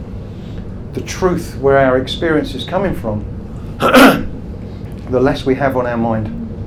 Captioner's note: clears throat